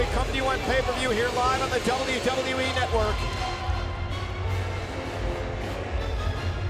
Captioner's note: crowd cheering